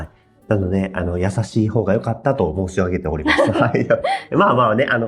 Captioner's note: laughs